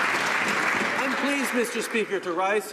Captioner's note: some Applause